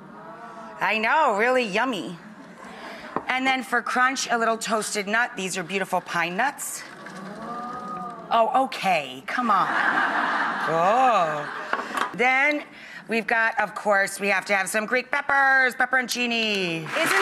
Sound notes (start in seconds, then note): 9.5 audience laughs; 16.9 audience applauds